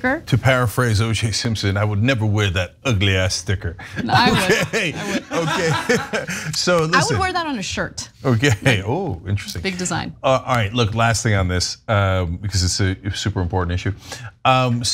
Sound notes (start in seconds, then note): 4.0 laugh